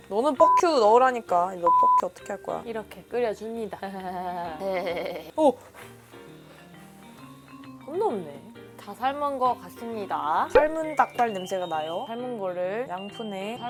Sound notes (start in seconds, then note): 4.6 laughing